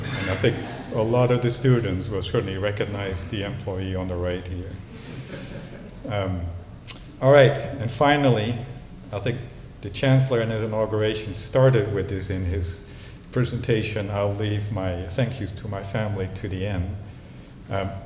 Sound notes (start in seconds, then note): 4.9 chuckling